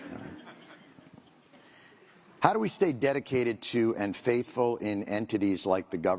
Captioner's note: laughter